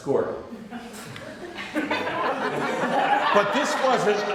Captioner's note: laughter